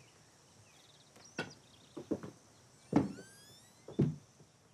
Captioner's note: shoes tapping